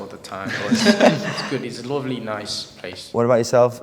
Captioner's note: laughs